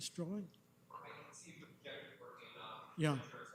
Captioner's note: clerk speaks off mic